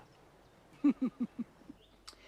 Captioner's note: Terkekeh